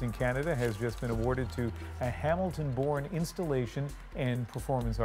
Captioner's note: cheers and applause